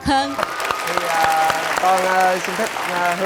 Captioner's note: applause